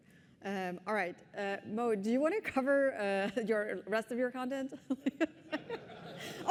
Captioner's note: laughter